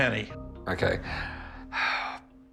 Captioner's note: sighs